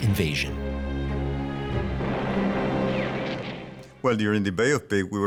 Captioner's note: artillery blasting